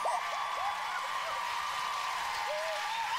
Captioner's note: clapping